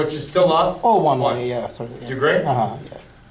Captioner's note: voiceover